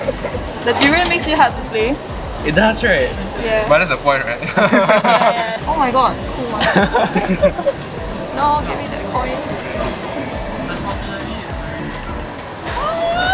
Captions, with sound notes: the durian makes it hard to play it does right? Yeah! but that's the point right? *Laughter* oh my god! Cool ah! Noooo....... Give me that coin!!